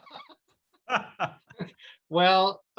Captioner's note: laughs